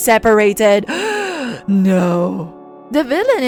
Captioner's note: gasp